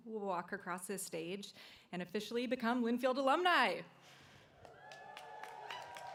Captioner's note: applause